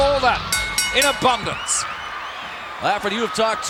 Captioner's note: bell ringing